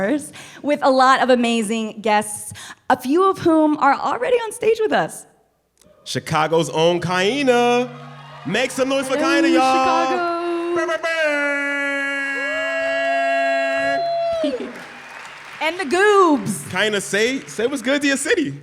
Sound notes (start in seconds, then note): 12.4 imitating air horn; 13.6 cheering